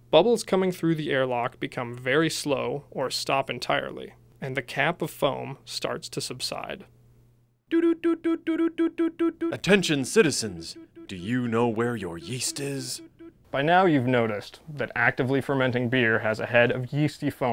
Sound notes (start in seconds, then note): 7.7 alert beeping